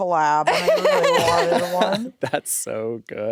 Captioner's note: laugh